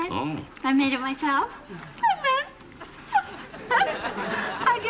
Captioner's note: giggles